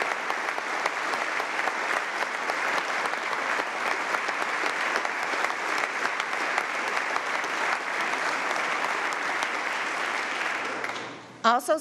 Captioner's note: applause